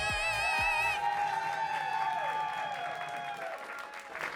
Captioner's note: audience cheers